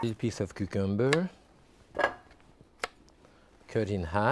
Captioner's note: knife slicing